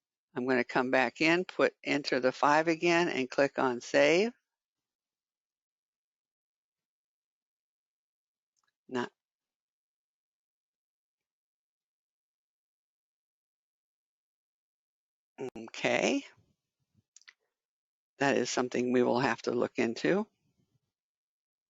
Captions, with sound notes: I'm going to come back in put enter the 5 again and click on Save. [10 seconds pause] Okay... that is something we will have to look into.